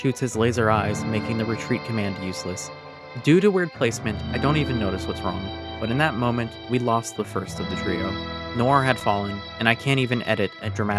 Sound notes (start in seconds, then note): none